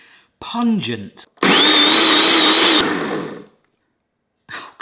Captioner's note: blender whirring